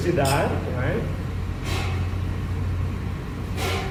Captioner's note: glasses Clink